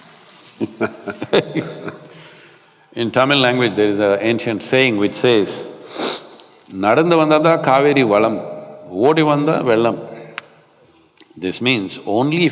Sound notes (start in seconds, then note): 0.5 both laugh; 8.3 speaks in Tamil- not transcribed